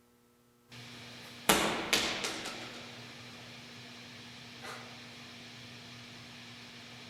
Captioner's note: static hissing; ball thudding